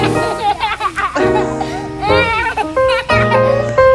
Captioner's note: laughing; jazzy piano music